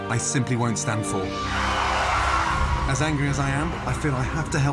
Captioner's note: tires squealing